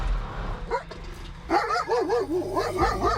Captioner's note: dog bark